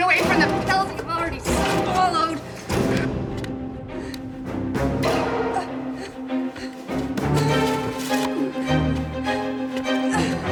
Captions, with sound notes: - You can't run away from the pills you've already swallowed. (Freddie struggling) (tense music)